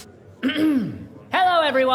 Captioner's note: clears throat